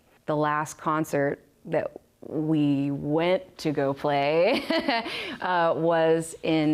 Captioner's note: risos